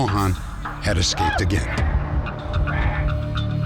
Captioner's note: shouting